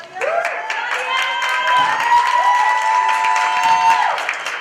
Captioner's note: applause